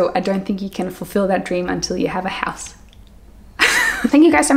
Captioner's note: chuckles